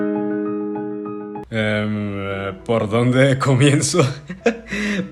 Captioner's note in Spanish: risas